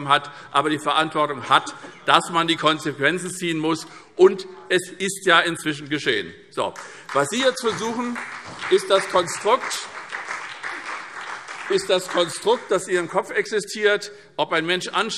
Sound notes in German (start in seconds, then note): 6.7 Beifall SPD